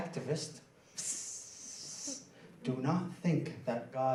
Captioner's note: mimics sound of spray paint can